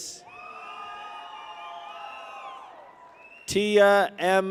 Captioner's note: people cheer